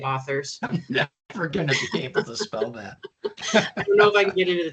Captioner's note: both chuckling